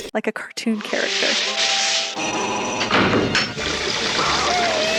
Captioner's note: trap door opens and closes; Scooby Howlingggg